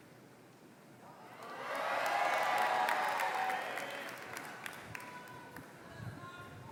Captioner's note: more Applause